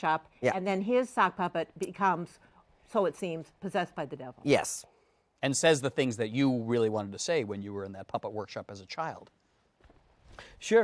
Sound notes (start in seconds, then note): none